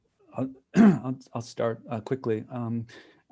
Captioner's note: clear throat